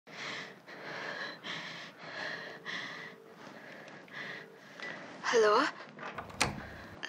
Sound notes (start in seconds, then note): 0.1 heavy breathing